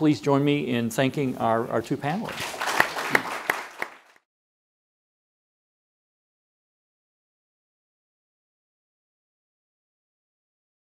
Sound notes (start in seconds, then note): 2.3 audience applauding